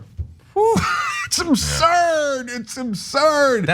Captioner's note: laugh